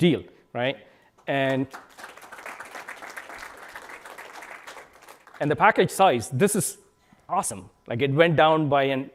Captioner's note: applause